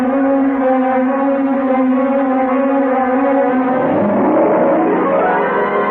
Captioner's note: explosion